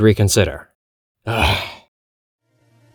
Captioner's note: sighs exasperatedly